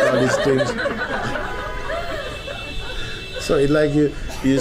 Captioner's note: laughter